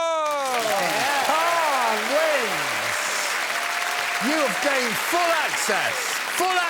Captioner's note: cheering and applause